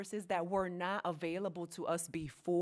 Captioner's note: none